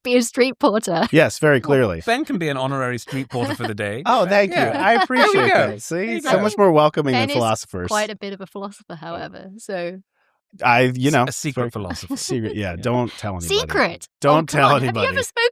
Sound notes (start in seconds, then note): 1.1 chuckles; 2.1 laughter